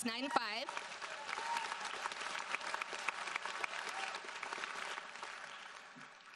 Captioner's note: audience cheers and applauds